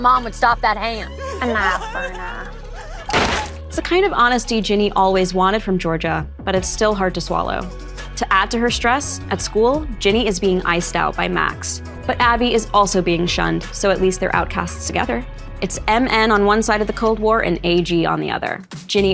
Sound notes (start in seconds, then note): 1.0 person sobbing; 3.1 gun shoots